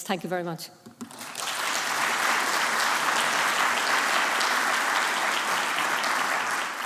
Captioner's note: applause